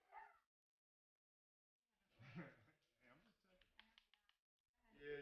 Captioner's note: talking and laughing